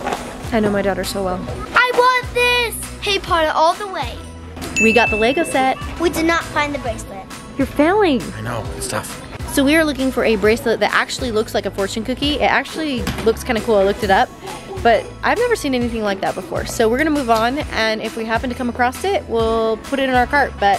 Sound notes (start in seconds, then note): 4.7 ding